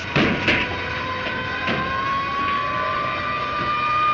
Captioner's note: siren wailing in distance